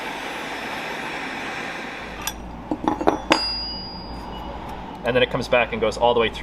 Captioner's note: loud machine noise, and then it stops